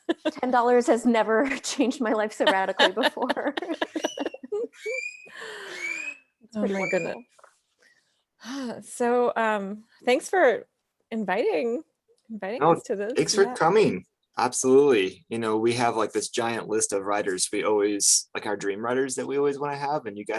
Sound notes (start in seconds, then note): 1.4 laughs; 1.5 both laugh